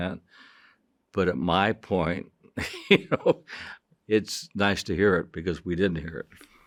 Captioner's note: chuckles